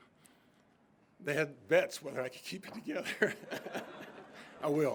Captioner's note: laughs